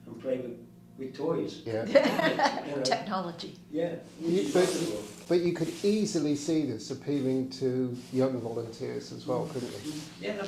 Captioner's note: laughter